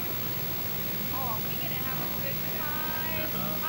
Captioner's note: kids chattering